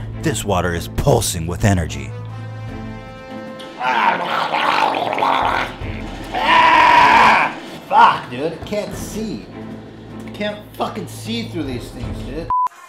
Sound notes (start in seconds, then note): 3.6 Ethan gargling; 6.3 Ethan Screeching